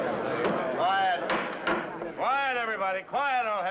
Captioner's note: banging